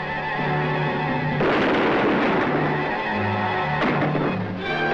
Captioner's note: gunshots fire